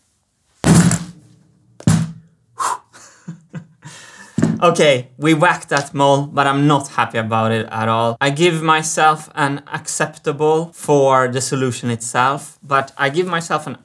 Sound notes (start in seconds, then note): 0.5 blows air on the mallet; 0.5 chuckles; 0.6 whack